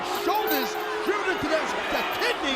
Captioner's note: chain rattling; crowd clamoring